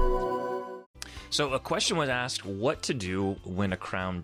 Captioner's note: voiceover